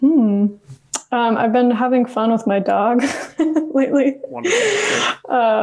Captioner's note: laughs